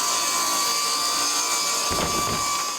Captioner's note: boards shuffling